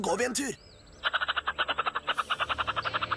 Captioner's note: chittering